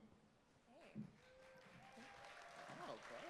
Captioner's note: applause